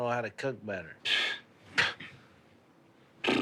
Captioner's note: scoffing